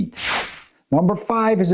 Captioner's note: transition whooshing